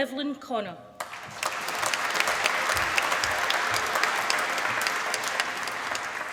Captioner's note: applause